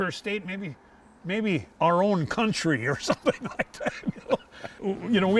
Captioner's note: laughs